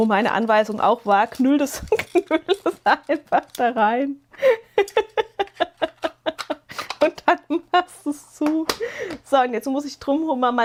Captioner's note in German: gelächter